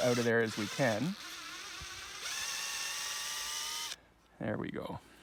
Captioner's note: drill sounds